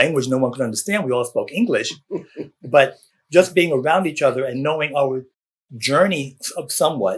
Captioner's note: laughter